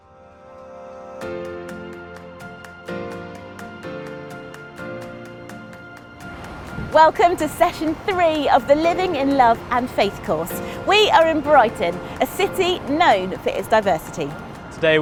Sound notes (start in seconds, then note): 0.1 bright upbeat music; 6.3 waves rushing